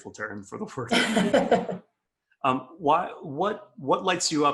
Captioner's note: laughs